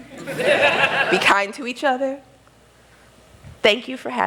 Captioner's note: laughter